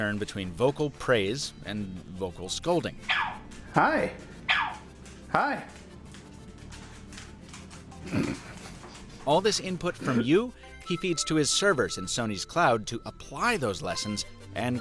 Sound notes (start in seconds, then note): 3.0 yapping; 8.0 laughing